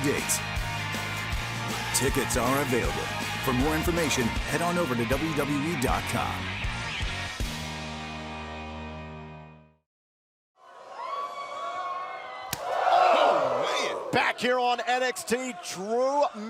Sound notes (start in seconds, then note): 6.5 crowd cheering